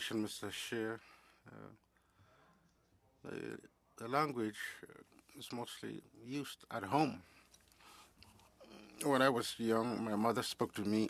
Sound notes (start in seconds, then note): 4.5 speaking French